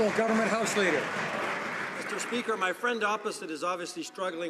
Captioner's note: some Applause